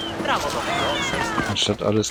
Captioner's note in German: schreien